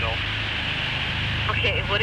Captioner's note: on phone